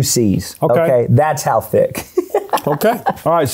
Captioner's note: laughs